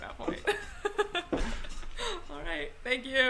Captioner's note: laughs